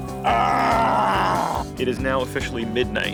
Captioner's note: tuneless whistling; hollering